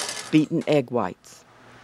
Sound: voiceover

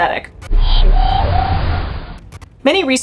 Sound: sound abruptly fluctuating between low and medium pitch

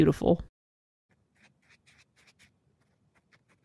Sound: pen scratches on paper

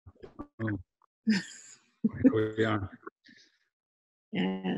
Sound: Kara laughing

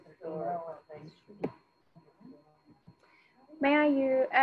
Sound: student speaking faintly

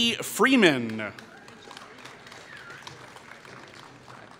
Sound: applause

